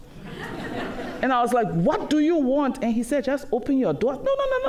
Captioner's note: laughter